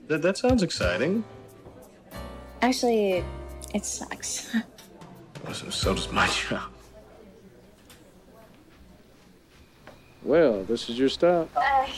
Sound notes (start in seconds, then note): 9.4 footsteps crunching